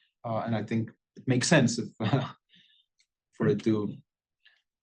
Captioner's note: laugh